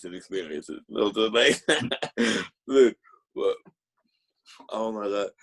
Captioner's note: laughing